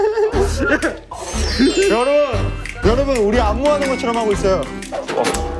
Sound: laughing happily

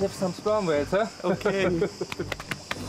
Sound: they laugh

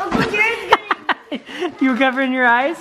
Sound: laughs

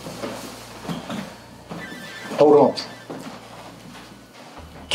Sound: phone ringing

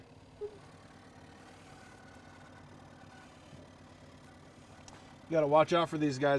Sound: chuckling

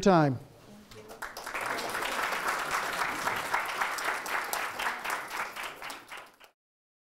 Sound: class applauding

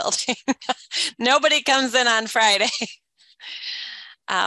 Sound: laughs

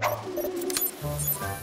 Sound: electronic beeping

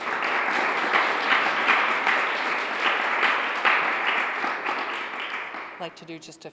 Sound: applause

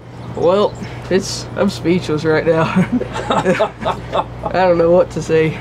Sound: laughing

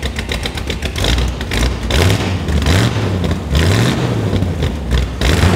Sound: car engine revving

